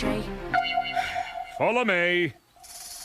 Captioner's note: sighs